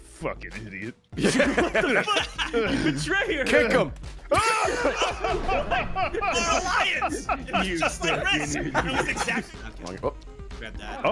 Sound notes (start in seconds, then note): 7.2 laughs